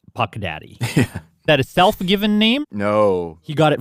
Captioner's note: laugh